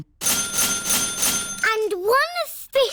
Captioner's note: dinging